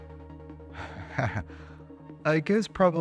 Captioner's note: laughs